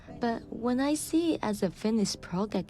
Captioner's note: none